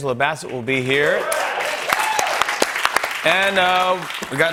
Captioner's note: cheers and applause